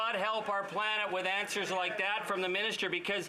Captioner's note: applause